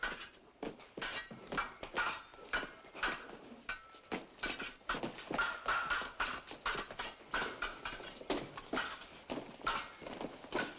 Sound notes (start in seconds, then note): none